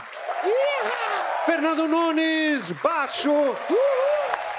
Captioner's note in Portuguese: aplausos